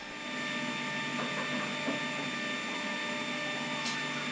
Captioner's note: edge bander whirring